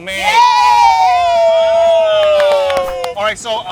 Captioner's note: collective screams